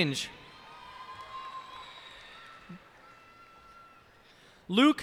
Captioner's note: cheers and applause